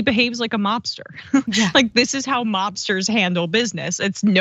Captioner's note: laugh